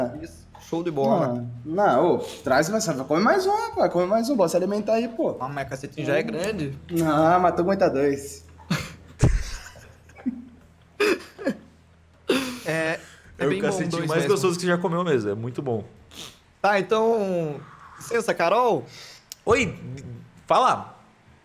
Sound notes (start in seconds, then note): 10.1 laughs